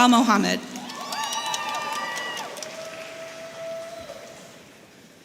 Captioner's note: audience cheering